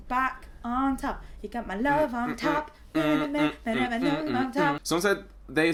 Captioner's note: sing songy